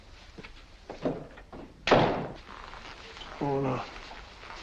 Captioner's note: door opens, closes